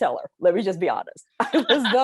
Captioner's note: both laughing